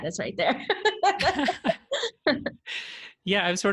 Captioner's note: laughter